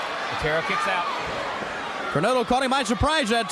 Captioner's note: crowd cheering